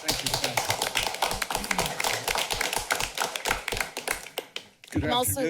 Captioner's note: applause